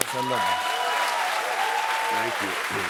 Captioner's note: cheers and applause